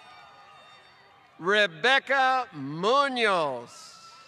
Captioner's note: applause